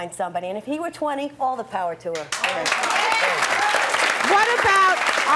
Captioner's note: audience applause